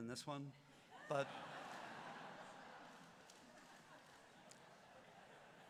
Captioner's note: laughter